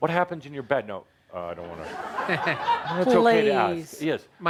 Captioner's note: laughter